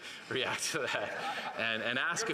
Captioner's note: laughter